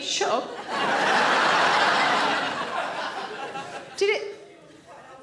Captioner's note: audience laughing